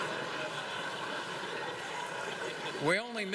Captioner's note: laughter